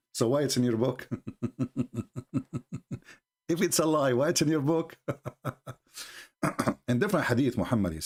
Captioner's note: Ketawa